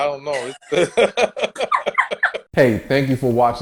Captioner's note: laughs